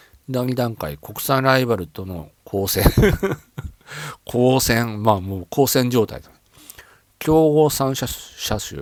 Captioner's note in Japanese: 笑い